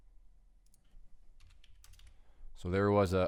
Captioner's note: clicking